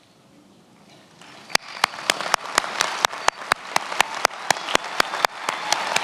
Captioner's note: attendees applauding